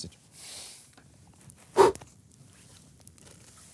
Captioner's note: exhales sharply